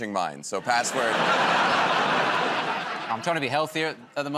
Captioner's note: laughter